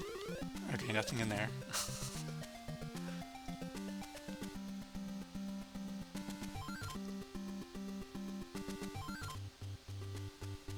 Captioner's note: laughs